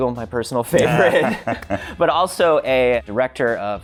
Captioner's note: laughing